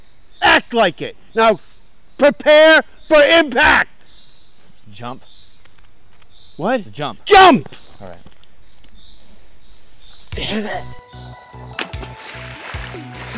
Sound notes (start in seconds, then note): 10.2 groaning sound